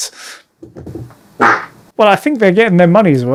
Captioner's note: punchy fart